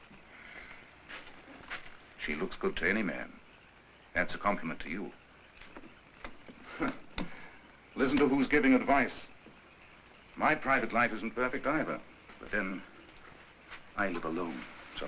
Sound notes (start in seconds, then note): 6.2 scoffs